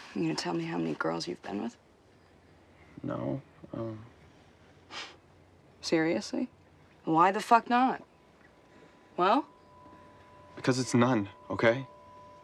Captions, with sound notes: - You gonna tell me how many girls you've been with? - No. Um. (Natalie scoffs) - Seriously? Why the fuck not? Well? - Because it's none, okay?